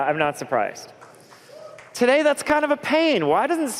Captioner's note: applause